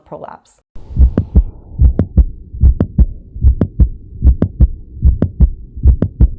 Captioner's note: heart beating